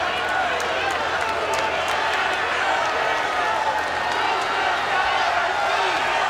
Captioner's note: crowd roars and chants